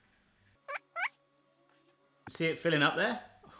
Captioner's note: squeaking